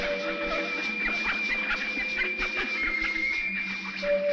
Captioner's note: ducks quacking